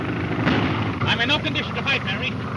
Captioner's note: gun fires